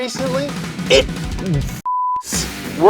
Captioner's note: beep